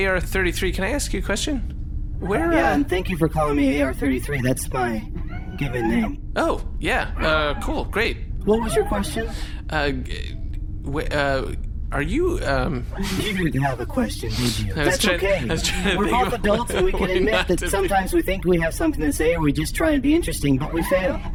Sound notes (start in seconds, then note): 11.0 stammering; 16.1 laughing